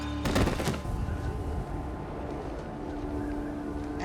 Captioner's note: body thuds; wind whistling